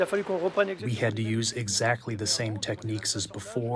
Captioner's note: through translator